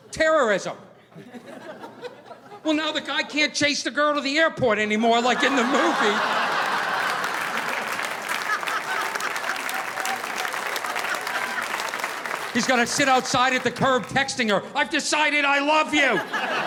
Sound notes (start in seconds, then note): 5.2 audience laughing; 5.2 audience applauding